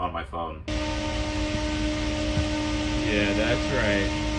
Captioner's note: fan whirring